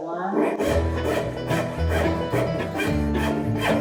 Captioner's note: saw cutting